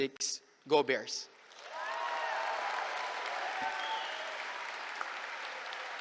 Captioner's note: cheering